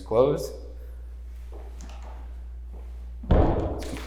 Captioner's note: door thuds